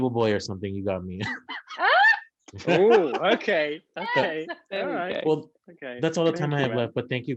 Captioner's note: laughing